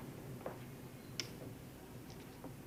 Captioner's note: click